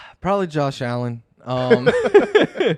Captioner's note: laughs